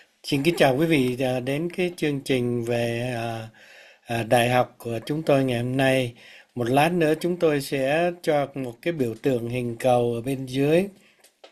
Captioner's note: speaking in foreign language